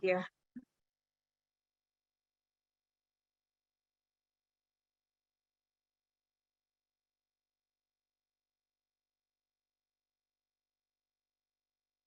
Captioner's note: silence